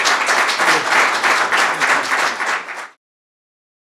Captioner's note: applause